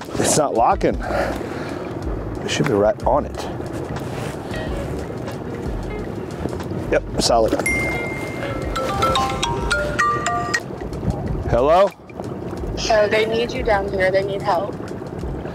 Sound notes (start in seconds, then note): 0.0 engine droning; 0.0 upbeat music continues; 3.9 engine droning; 3.9 upbeat music continues; 7.6 bell ringing; 7.6 phone ringing; 8.9 engine droning